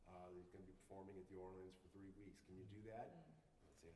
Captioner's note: none